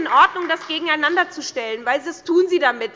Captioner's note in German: Beifall bei der SPD